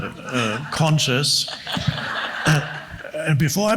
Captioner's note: audience laughs